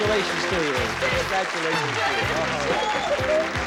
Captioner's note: applause